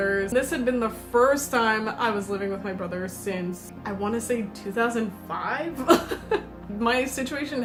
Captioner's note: uncomfortable laughter